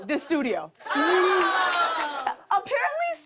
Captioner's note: laughter